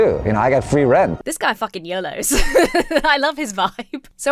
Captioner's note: laughs